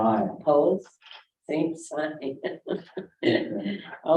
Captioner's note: chuckles